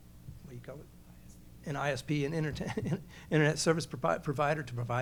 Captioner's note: laughs